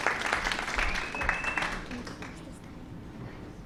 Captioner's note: applause